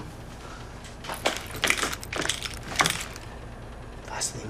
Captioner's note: gun rattles